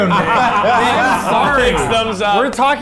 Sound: everyone laughing

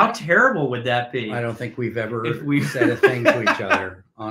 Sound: laughing

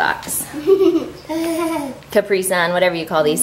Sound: laughing

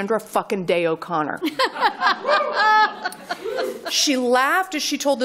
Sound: laughter

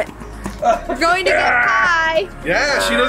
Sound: laughs and grunts

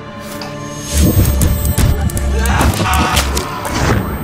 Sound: audio rewinding

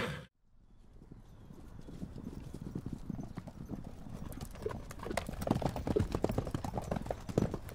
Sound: horse neighs & horses gallop away

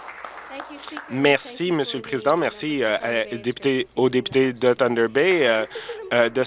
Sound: applause

